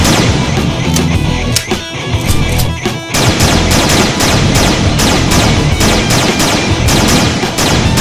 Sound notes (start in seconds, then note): 2.1 gun clicks; 3.1 gun blasting